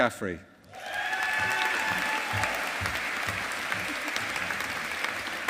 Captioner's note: audience applauding